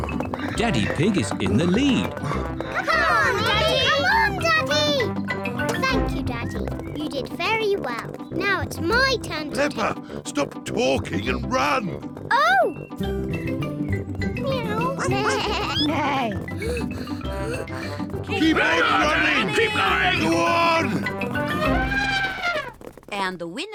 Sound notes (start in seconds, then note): 14.7 animal noises; 21.1 trumpets